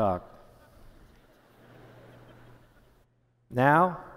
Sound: laughter

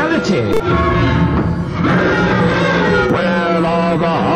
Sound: guttural mechanic cries

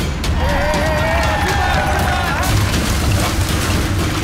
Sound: cheering

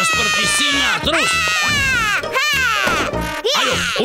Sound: grunting

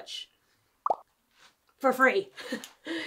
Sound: image popping

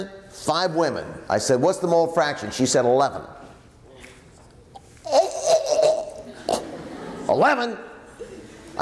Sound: makes choking noise

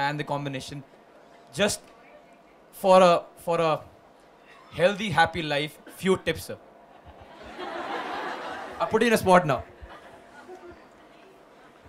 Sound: laughter

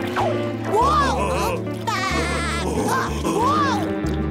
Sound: buzzing; laughing

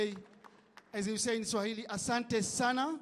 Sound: speaking in Swahili

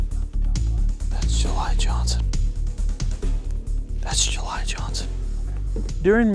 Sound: whispering

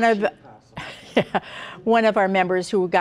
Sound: laughs

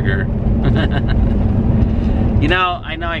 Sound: laughing

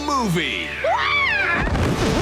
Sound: screaming

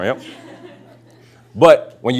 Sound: laughter

